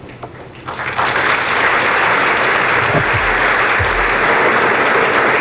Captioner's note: applause